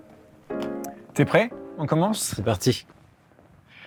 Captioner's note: speaking french